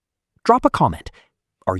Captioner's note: very long pause. Let the silence breathe